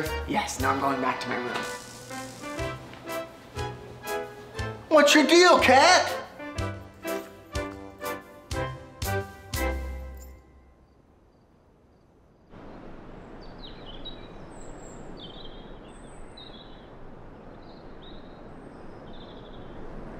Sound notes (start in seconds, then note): 12.5 birds chirping